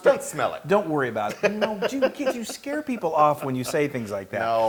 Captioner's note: laugh